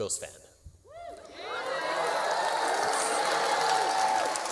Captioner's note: cheering and applause